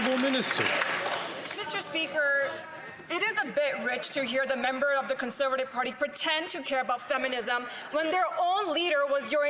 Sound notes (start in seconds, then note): 2.9 some Applause